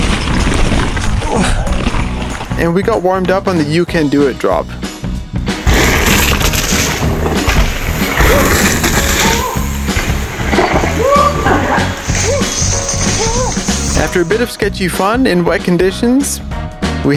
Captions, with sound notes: (grunts) And we got warmed up on the, Yuka'n Do It drop. (dirt scarping) (whooping) After a bit of sketchy fun in wet conditions,